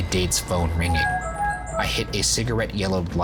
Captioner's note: ringtone plays